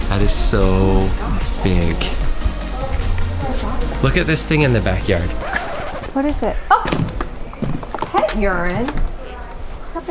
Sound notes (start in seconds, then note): 5.3 yelps; 5.4 record scratching